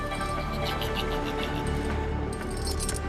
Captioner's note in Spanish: risa malvada